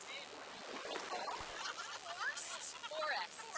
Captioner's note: laughs